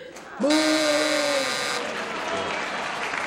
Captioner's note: buzzer; applause